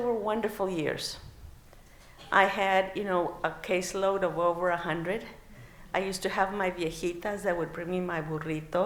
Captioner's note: non-english